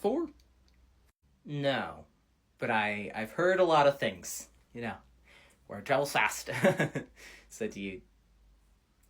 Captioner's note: nervous laughter